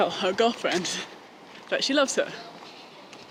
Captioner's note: laughing